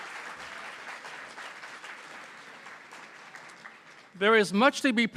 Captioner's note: applause